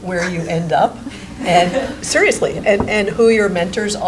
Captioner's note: chuckling